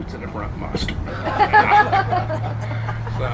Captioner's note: crowd laughs